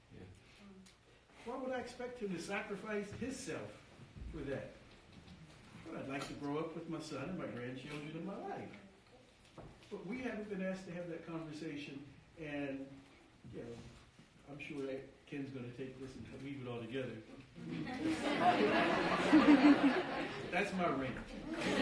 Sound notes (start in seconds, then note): 17.7 audience laughing